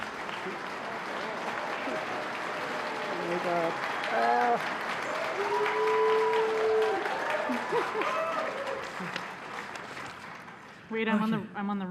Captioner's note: applause